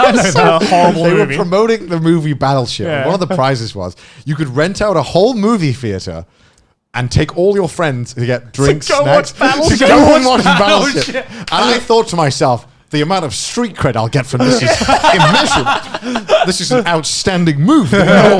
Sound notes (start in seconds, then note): 14.4 laughing